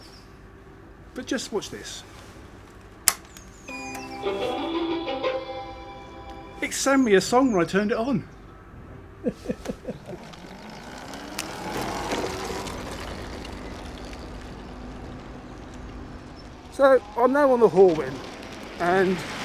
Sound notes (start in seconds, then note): 3.0 switch clicks; 9.2 laughs; 10.3 motor buzzing